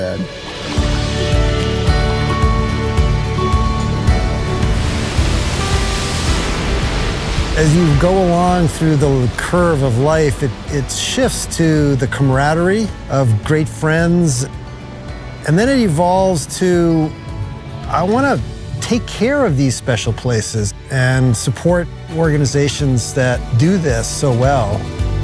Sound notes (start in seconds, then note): 4.9 waves crashing on shore